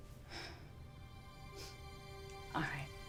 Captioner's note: sighs